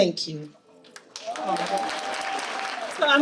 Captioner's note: audience applauding